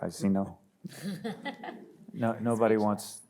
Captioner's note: panel laughs